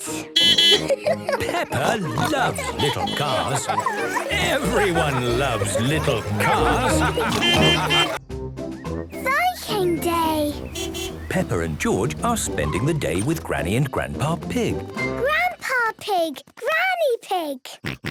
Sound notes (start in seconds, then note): 0.3 beeping and laughing; 6.3 laughter; 7.2 beeping; 10.7 beeping